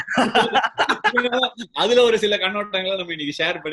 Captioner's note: laughs